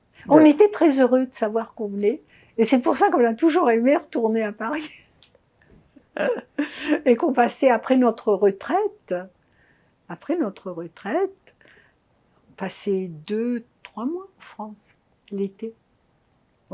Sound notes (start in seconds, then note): 6.0 laughing